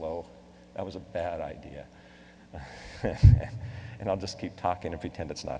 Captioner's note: laughs